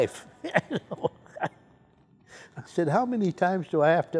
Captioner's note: chuckles